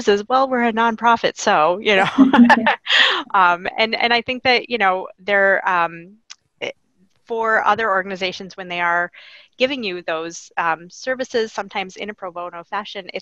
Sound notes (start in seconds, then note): 1.8 laughing